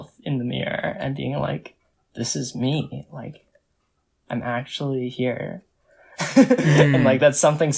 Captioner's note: laughs